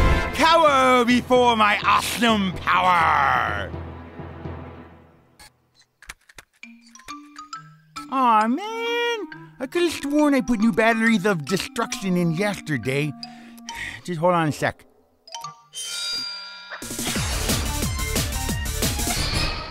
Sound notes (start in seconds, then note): 6.3 rattling; 13.7 sigh